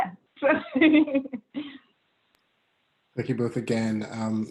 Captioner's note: laughing